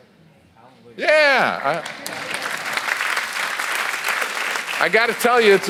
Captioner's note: audience applauds